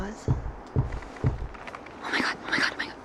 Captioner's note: object banging